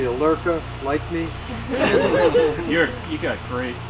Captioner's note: laughs